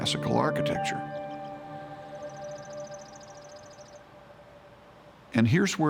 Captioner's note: birds chirping